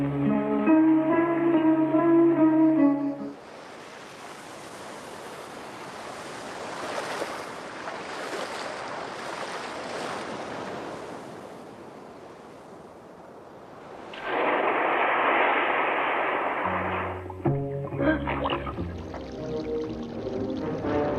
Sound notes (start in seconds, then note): 0.0 gentle music; 3.9 waves crashing; 11.9 waves continue crashing; 14.0 water rushing; 16.7 sinister music